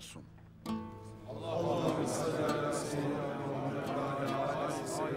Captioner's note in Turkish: Hep bir ağızdan